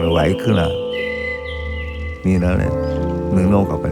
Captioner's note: bird chirping